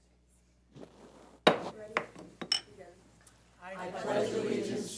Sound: gavel bangs

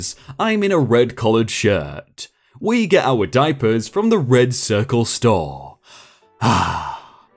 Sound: sigh

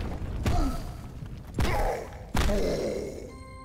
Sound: grunts, groaning

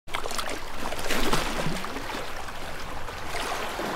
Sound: splashing water

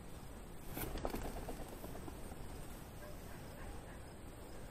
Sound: bird flapping wings

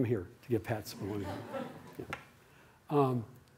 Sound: laughter

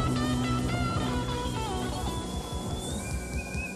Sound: kettle whistling

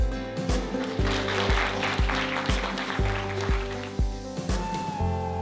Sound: crowd applauding

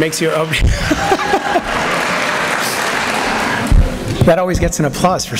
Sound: applause

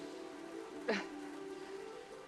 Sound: coughs

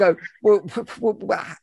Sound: stammers

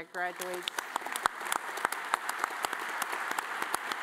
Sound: all applauding

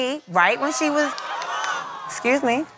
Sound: crowd jeering

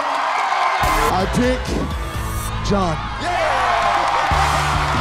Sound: cheers and applause

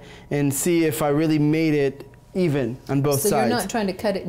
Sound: none

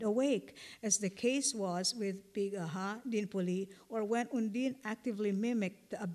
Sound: non-english

